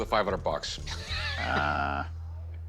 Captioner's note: laughs